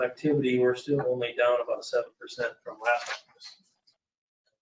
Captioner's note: speaking off mic